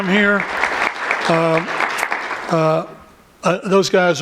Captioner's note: applause